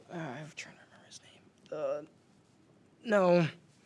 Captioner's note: groans